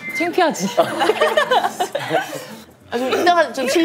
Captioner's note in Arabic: هههه